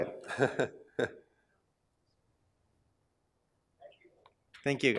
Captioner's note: laugh